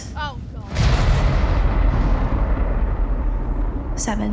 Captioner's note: thunder crashes